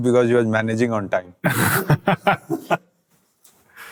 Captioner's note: laughs